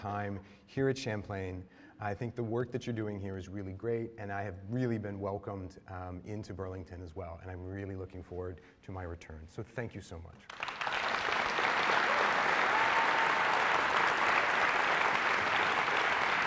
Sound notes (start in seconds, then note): 12.6 applause